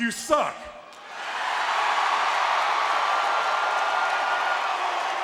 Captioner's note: audience cheering